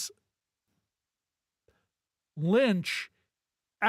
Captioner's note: none